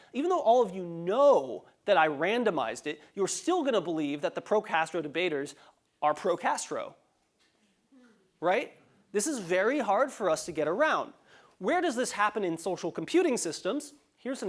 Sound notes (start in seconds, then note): none